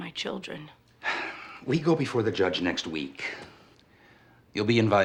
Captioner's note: sighs